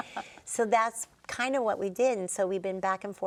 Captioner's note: all laughing